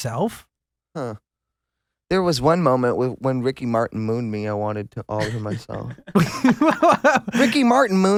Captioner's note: laughs